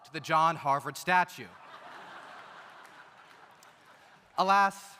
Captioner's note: audience laughs